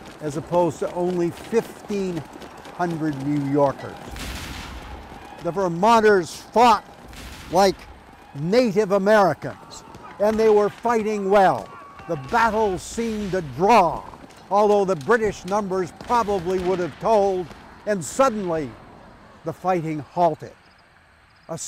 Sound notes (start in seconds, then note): 4.3 cannons blasting; 5.0 men yelling